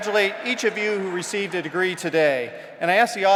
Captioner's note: applause